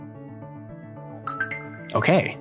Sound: upbeat music; computer chimes

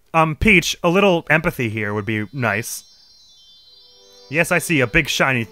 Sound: large Shine Sprite hums with light

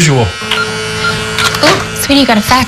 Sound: beeping

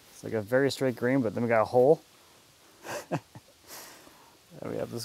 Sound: laughs

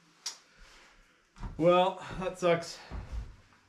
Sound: sighs

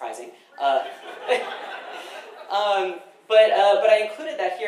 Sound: audience laughing

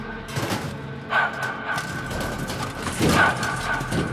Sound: loud smashing

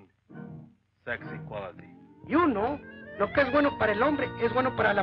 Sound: continues in Spanish

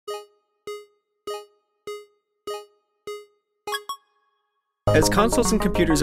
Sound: arcade sounds

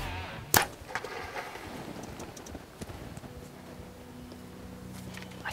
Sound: bow string thudding

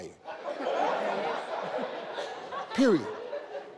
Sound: people laughing

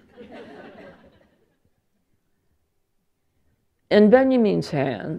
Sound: laughter

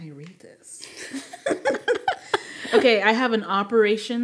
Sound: speakers laughing

